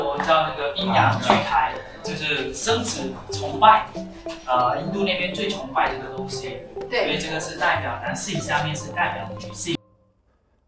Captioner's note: chinese guide speaking